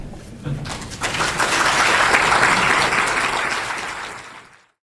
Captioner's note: audience applauds